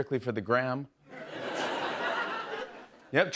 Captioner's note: laughter